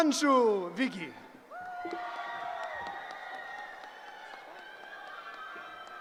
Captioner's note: cheering